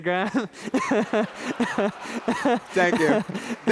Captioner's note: laughter